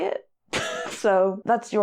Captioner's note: laughs